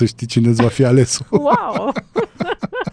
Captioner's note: laughter